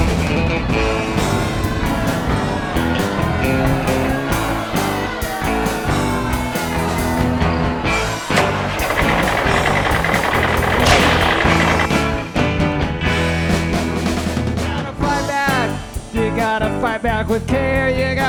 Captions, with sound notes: [crowd cheers and boos] [engine revving] You got to Fight Back!, you got to Fight Back with care